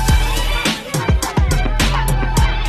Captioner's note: crowd chattering